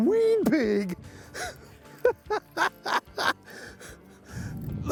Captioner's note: chuckling